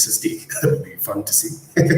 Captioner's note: chuckles